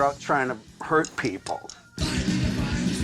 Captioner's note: drum sticks tapping; hardcore music